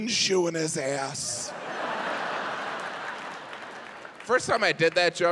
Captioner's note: audience laughs